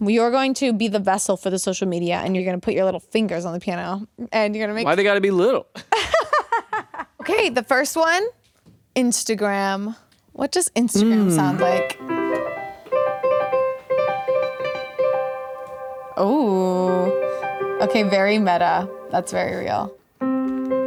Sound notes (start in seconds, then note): 5.8 laughs; 12.6 bright keyboard music; 20.6 gentle keyboard music